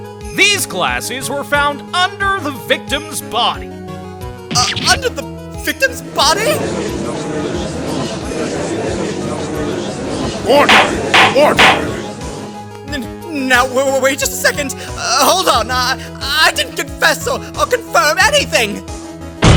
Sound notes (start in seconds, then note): 6.6 gallery chattering